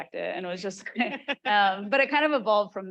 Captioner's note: chuckles